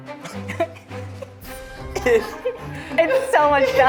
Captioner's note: laughing